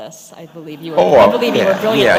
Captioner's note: laughter